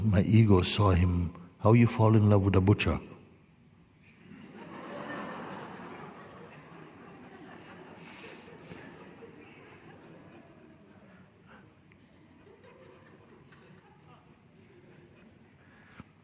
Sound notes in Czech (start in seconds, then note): 9.5 smích